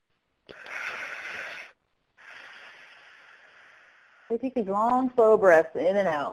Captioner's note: exhale; inhale; exhale